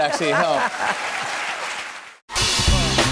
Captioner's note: cheers and applause